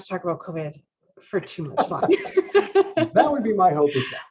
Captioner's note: laughs